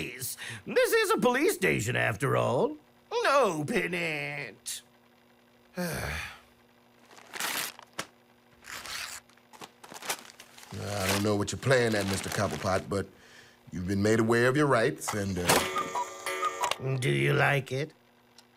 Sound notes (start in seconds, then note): 5.7 sighs; 7.0 packaging tearing; 15.6 cuckoo clock chiming